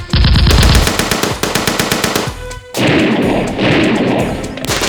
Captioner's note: gunfire rattles